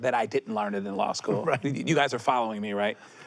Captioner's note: laughs